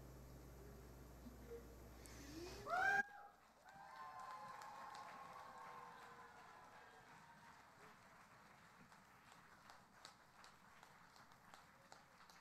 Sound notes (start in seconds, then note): 1.3 audience applauding